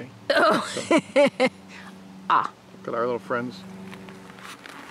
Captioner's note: laughing